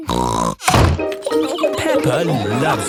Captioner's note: snorts